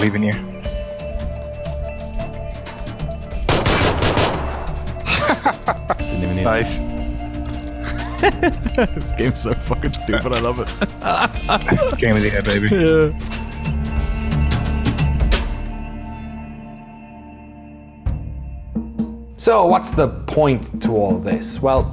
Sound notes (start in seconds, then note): 3.4 gunfire; 4.8 laughing